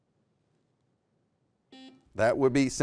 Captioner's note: buzzer